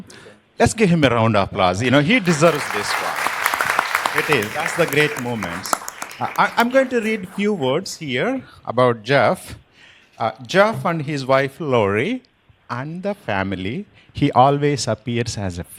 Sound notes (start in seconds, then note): 8.2 applause